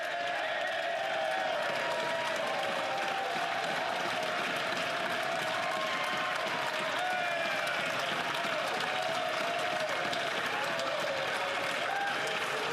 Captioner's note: cheering and Applause